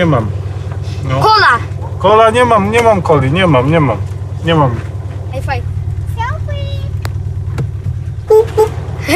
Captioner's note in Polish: dźwięk klaksonu